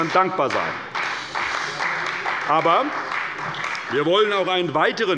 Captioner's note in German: Beifall bei der CDU und dem BÜNDNIS 90/DIE GRÜNEN